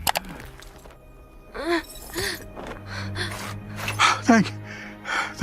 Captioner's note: mouse clicking; Atom Eve groaning